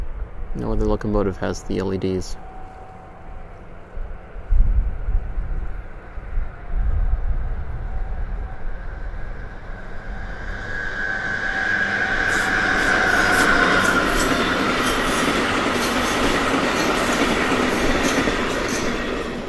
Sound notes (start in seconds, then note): 5.3 high-pitched engine sounds approach and pass; 14.4 wheels whooshing along the track; 19.2 wheels clacking on the rail joint